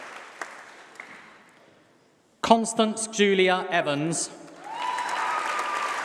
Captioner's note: applause